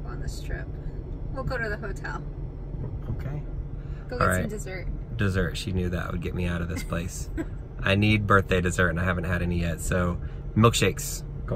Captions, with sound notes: on the Strip, we'll go to the hotel. - Okay, all right. - Go get some dessert. - Dessert, she knew that would get me out of this place. (woman laughs) I need birthday dessert and I haven't had any yet, so milkshakes.